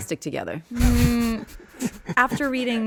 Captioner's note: laughing